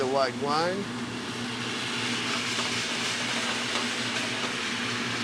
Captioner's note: pan sizzles